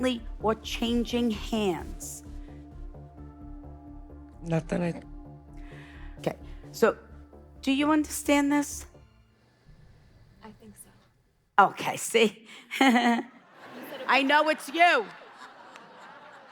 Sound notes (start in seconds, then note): 12.7 laughing; 12.8 audience laughing